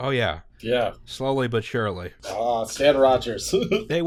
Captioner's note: laughter